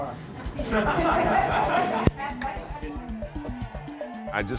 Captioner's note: group laughs